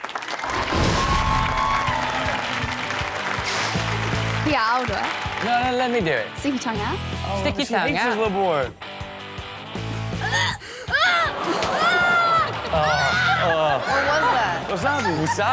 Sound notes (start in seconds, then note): 0.0 audience cheering and clapping; 2.6 upbeat rock music; 10.2 gagging and screaming; 10.9 audience groans